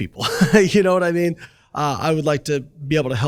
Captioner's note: chuckles